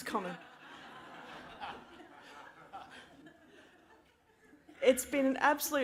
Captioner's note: laughter